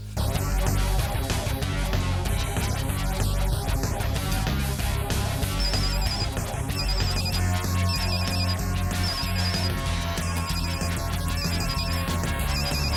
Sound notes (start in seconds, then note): 0.1 heavy metal music; 5.6 phone ringing